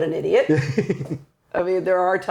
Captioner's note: laughing